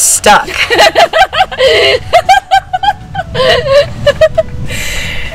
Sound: women laughing

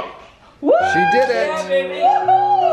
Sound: cheers

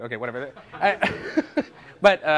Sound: laughter

